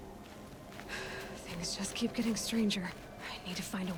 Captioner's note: sigh